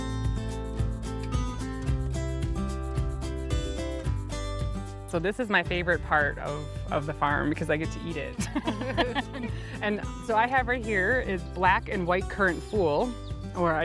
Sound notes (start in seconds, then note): 8.4 both laughing